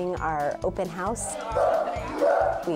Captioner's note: dog barking